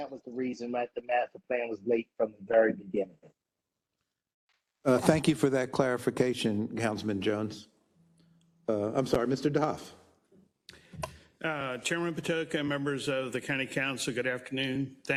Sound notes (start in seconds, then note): none